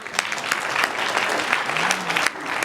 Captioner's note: applause